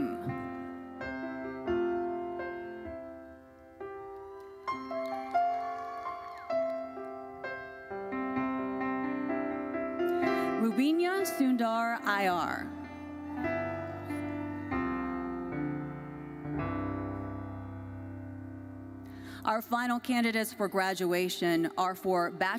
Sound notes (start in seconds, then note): 0.2 gentle uplifting music continues; 3.9 audience cheering; 4.0 audience applauding; 12.2 audience cheering